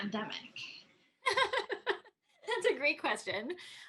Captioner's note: Tui laughing